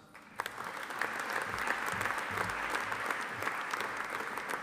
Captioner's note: audience applauding